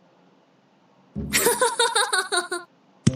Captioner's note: laugh